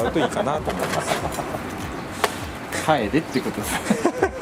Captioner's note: laughs